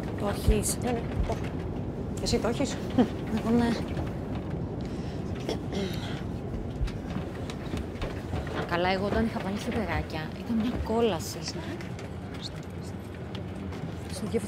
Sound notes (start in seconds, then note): 0.2 flight attendant and Vanina speaking foreign language; 5.4 Vanina clears throat; 8.5 flight attendant and Vanina speaking foreign language